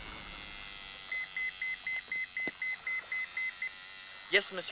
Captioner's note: radio beeping